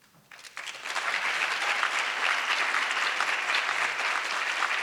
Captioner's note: audience applause